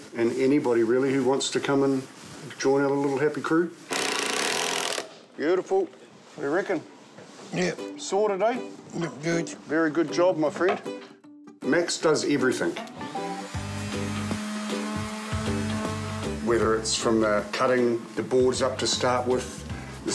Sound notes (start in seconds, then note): 3.9 drill whirrs; 13.1 sanding machine whirrs